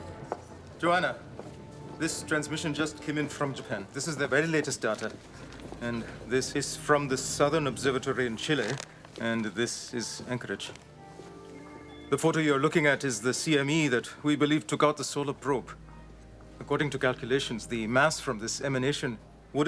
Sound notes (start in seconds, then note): 10.6 footstep